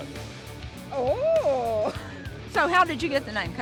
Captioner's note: laughing